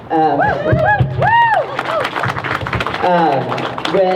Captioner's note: crowd cheers